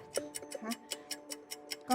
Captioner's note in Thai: เสียงนาฬิกา